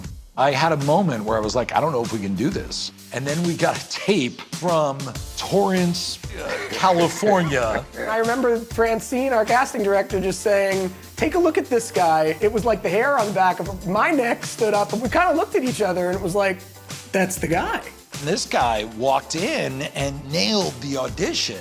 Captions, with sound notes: I had a moment where I was like, "I don't know if we can do this." And then we got a tape from Torrance, California... -(CHUCKLES) -I remember, Francine, our casting director just saying, "Take a look at this guy." It was like the hair on the back of my neck stood up and we kinda looked at each other and it was like, "That's the guy." This guy walked in and nailed the audition.